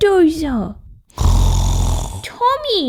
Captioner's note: snoring!